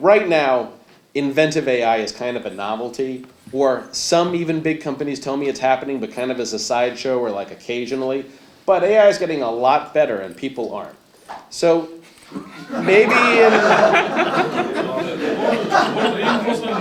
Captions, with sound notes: Right now, inventive AI is kind of a novelty or some even big companies telling me it's happening, but kind of as a side show or like occasionally. But AI is getting a lot better and people aren't. (audience laughs)